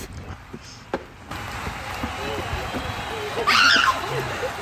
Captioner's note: applause